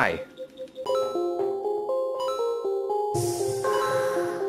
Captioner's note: beeps